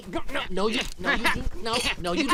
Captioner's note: sounds of struggle